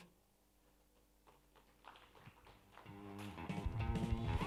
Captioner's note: applause